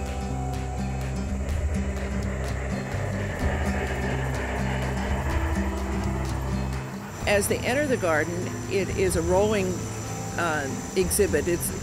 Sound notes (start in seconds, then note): 0.2 chugging sound effects